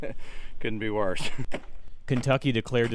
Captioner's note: laughter